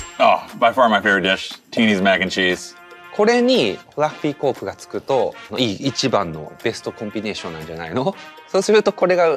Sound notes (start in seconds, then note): 3.3 Takeru speaks Japanese